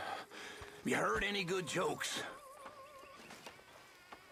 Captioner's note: sighs